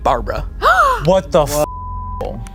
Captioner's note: gasps; beep